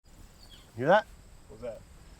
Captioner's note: bird singing